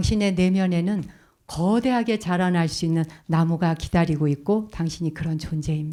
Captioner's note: speaking in Korean